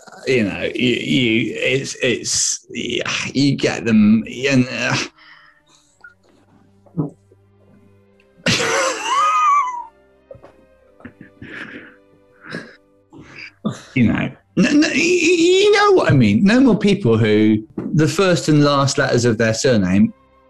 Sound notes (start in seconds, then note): 4.8 sighs; 8.3 sniggering